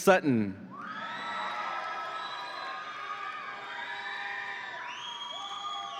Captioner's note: audience applauds and cheers